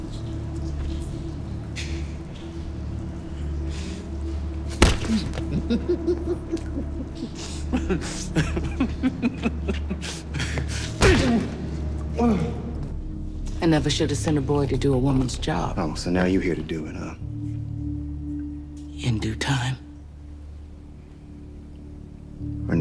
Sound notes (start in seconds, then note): 0.1 tense music continues; 4.8 head thuds; 5.1 man laughing; 10.8 man groaning; 20.4 tense music